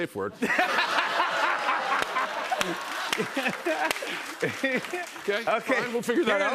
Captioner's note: laughter and applause